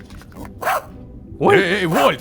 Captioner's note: robodog barks